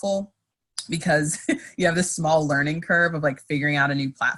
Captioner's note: laughs